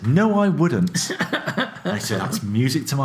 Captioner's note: laughs